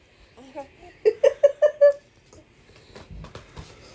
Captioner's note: he laughs